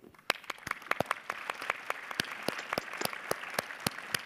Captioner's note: audience applauding